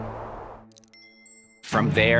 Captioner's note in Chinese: 太陽眼鏡聲響